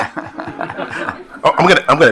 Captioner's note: attendees laughing